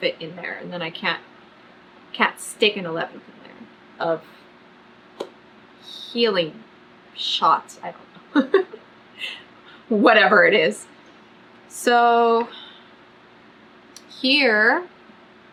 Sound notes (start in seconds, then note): 8.3 laughs